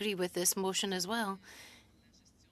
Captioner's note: speaking French